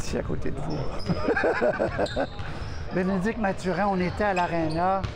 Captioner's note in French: rire